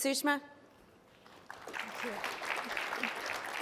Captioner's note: applause